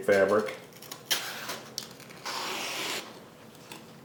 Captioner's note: knife cutting